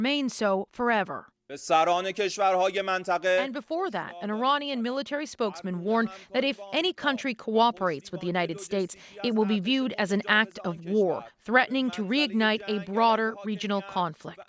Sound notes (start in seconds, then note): 2.6 speaking alternate language